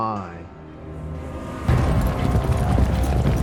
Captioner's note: horses running